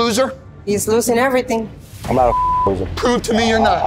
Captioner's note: beeps